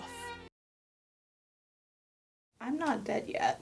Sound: awkward Silence

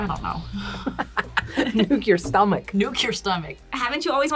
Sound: laughs

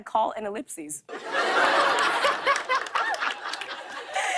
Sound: laughter

